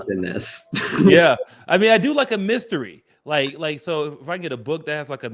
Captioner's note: laughs